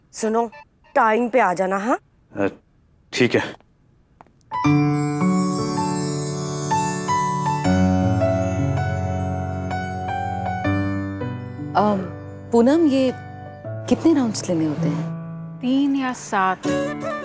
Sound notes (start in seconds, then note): none